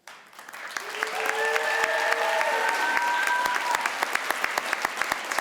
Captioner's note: crowd cheers and applauds